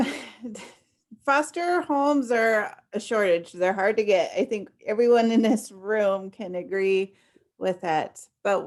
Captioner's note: laughs